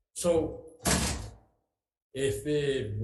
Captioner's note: chair thuds